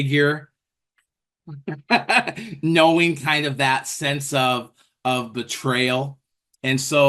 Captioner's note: laughs